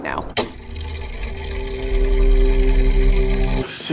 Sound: mechanism whirring

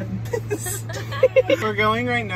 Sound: laughing

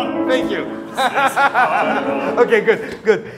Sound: laughs

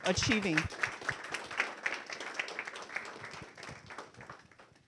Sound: audience applauding

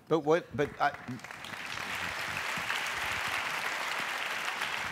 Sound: applause

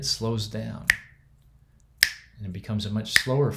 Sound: fingers snaps

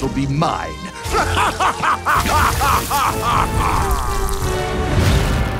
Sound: evil laugh

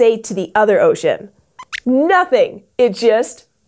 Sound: squeaks squeaks

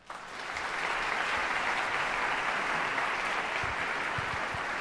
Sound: audience applause

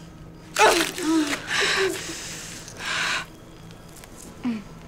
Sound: Rosemary grunting

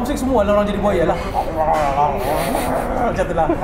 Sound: mimicking hungry crocodile

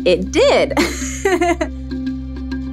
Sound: laughs

